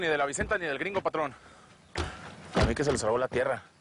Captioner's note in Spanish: Portazos